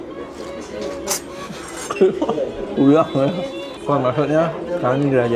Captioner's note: laugh